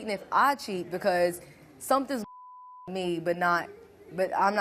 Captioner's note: beep